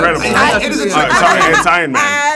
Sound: laughs

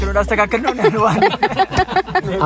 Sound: laughter

